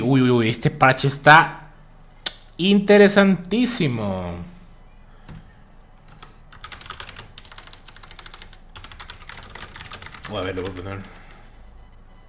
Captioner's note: typing